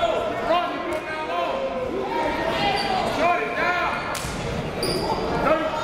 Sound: crowd talking; coaches yelling

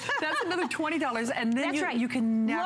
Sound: laughter

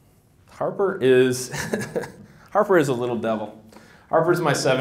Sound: laughs

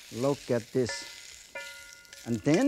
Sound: wok clinking

